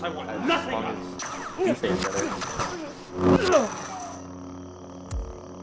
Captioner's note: grunting